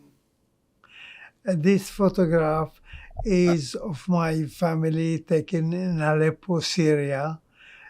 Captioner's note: none